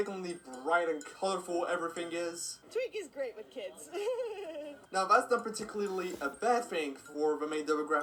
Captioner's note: she laughs